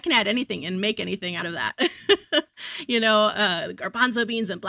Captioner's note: chuckles